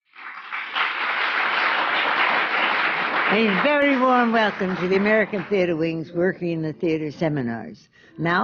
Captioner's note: applause